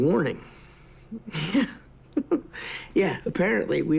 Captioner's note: chuckles